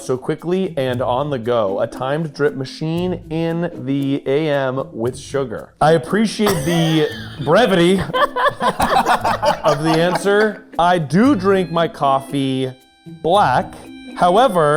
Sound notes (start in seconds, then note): 6.4 group laughing